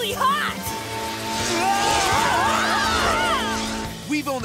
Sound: screaming

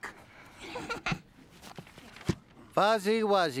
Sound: chuckles

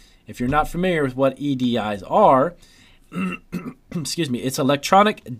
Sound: clears throat

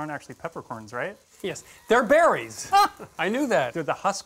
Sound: laughs

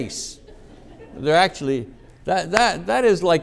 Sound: audience laughing

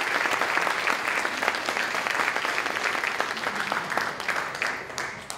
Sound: applause

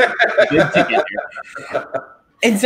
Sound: laughs

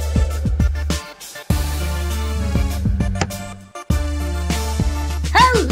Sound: electric hum - light clicks on; sneaky spooky music

